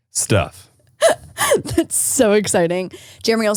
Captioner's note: laughing